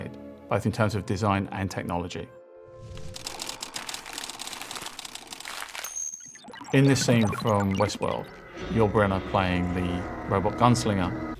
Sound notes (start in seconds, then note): 3.1 film reel clicking